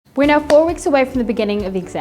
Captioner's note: claps